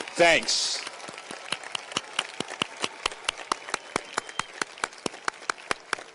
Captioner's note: audience cheers and applauds